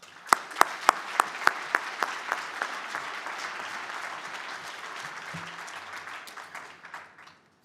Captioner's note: applause